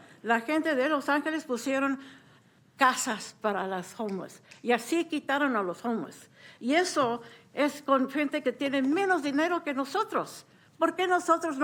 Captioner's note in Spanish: hablando español